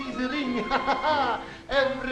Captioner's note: laughs